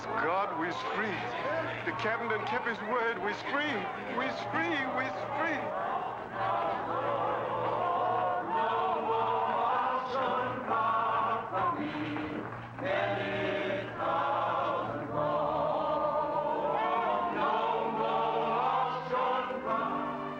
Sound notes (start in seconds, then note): 1.7 freed slaves chattering; 5.9 freed slaves singing